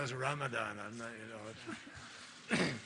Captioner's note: laughter